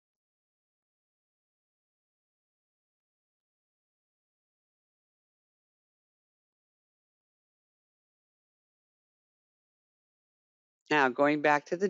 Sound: 10 seconds pause

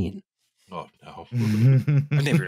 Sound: chuckles

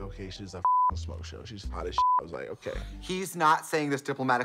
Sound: beep

